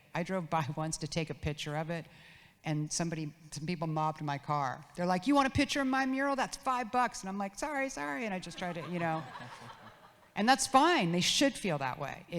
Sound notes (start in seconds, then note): 8.6 audience laughs